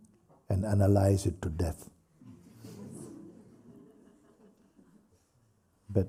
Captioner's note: laughter